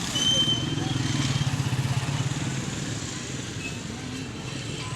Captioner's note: street noise